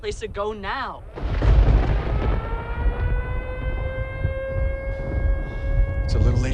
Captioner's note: thunderclap; siren blaring